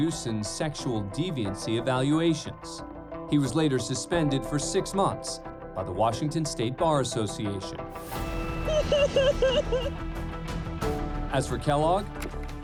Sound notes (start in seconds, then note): 8.6 sobbing